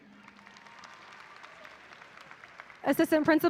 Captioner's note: audience applauding